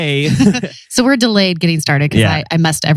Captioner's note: laughs